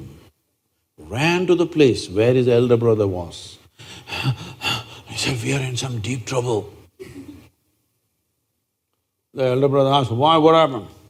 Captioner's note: gestures panting breath